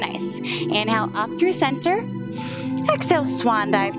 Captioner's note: inhales